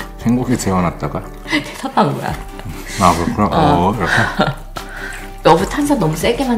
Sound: laughing and chattering

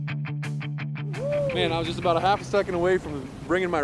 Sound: whooping

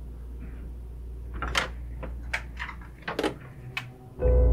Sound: fridge opens, shuts

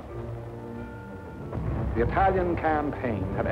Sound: explosions

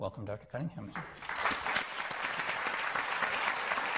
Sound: clapping

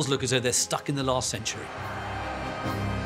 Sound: cheering

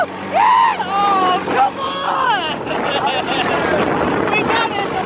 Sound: laughing

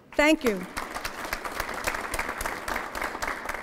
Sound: applause

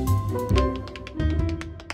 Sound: tapping

